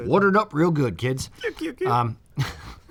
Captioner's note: mimics laugh of Roscoe from Dukes of Hazzard